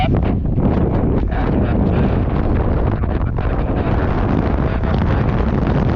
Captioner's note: roaring wind drowns out the radio